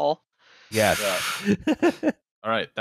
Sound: sharp intake of breath; laughs

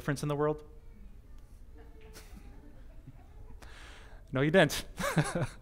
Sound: audience: Laughter

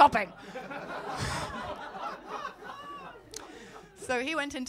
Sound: laughter

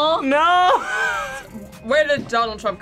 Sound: laughs

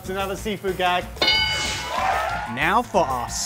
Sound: bell ringing; cheering

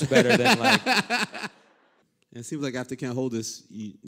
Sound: laughter

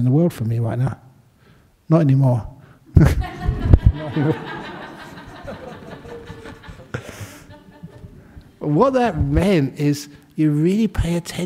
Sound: laughter

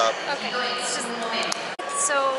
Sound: loud clap

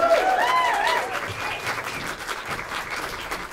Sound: applause

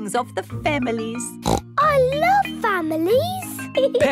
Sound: snorts

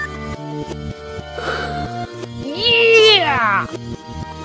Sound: sighs

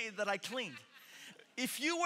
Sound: congregation laughing

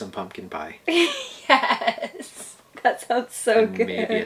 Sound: laughs

